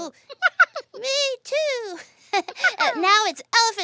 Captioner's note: laughs